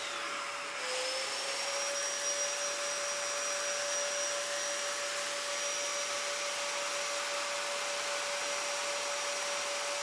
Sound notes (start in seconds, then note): 0.0 saw engine whirring